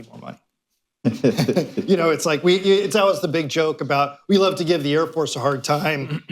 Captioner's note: laughter